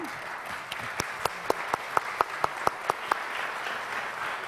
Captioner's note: audience applause